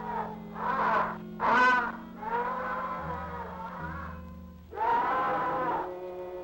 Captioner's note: birds crowing; mysterious music